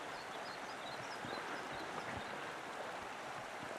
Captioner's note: bird singing